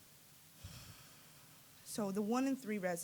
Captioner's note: sighing